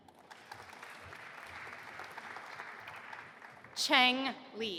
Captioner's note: audience applauding